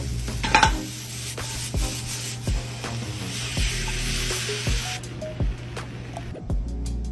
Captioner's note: sizzling sound; upbeat music